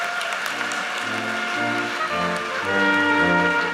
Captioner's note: audience cheers and applauds